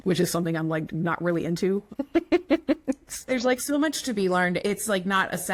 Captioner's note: laughs